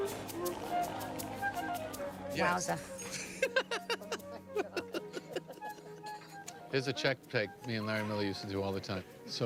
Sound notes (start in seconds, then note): 3.1 Jerry laughs